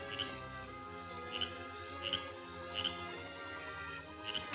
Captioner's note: frog croaking